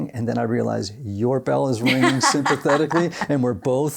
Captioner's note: laughs